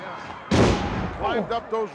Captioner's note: body thuds